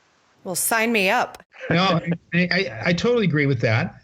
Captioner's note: laughter